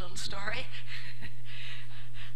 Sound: laugh

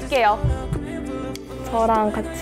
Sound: heart beating

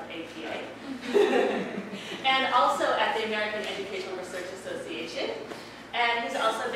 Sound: laugh

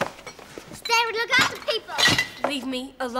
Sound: box of bottles clanks loudly

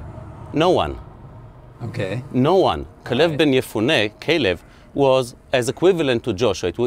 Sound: speaking hebrew

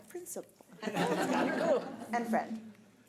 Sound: audience laughs

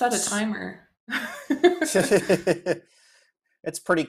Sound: laughter

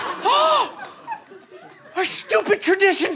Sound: screams; gasps

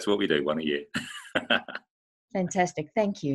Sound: laughing

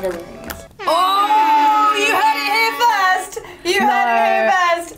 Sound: horns sounding

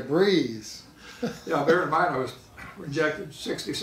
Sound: laughing

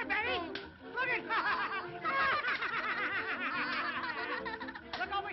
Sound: laughs

